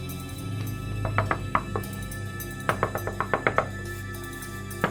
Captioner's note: rapid knocking on door; knocking intensifies